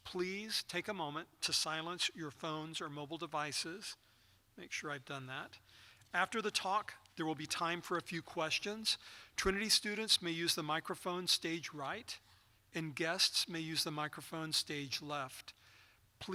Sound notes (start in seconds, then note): none